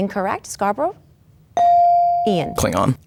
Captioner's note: bell dings